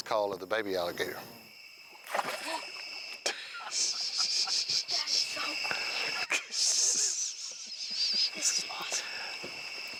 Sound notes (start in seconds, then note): 1.9 water splashing; 2.8 gasping